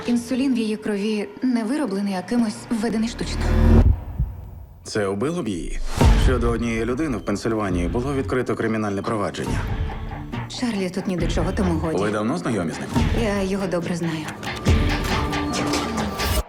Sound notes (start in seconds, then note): 14.2 typing